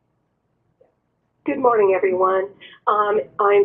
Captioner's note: voiceover